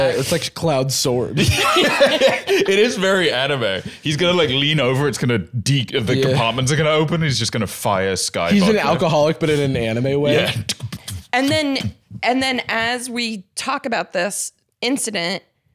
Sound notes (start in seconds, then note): 1.4 laughs